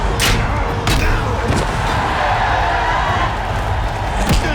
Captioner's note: crowd cheering